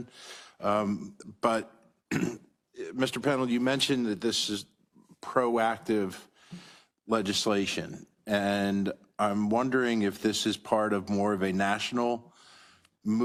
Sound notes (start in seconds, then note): 2.1 cough